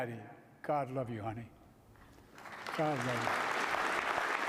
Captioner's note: applause